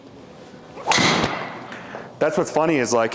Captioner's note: golf club whacks